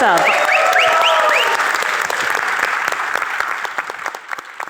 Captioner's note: audience cheering